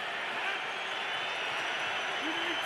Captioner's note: crowd cheering